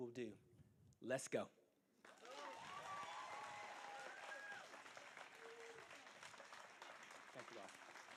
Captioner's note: applause